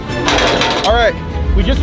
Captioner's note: metal clanking; suspenseful dramatic music